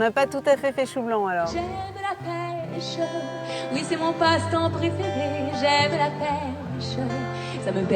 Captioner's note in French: chant